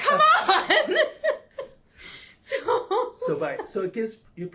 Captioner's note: laughs